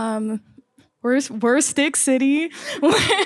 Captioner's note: laughs